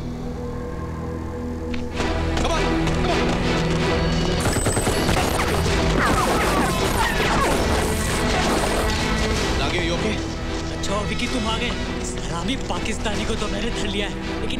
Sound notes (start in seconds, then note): 4.4 Rapid gunfire